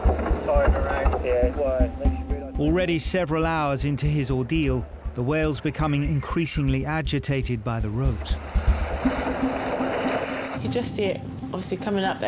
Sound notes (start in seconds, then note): 8.8 water sloshing